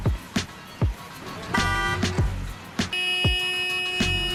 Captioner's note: beeping